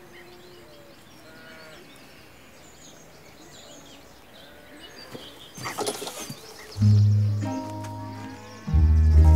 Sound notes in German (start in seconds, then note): 2.0 Vogelzwitschern; 6.7 Gemächliche Musik